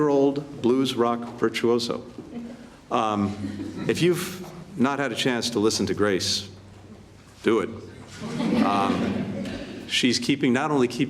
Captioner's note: laughter